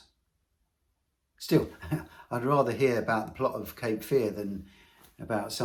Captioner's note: laughs